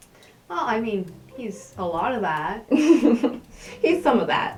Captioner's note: laughter